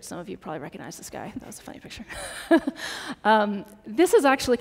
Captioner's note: laughs